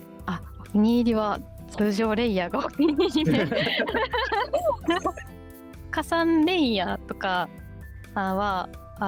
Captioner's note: laughs